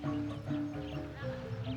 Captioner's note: birds chirping